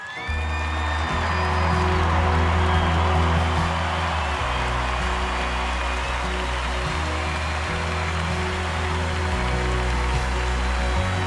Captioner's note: cheer and applause